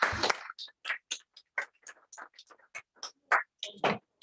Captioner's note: applause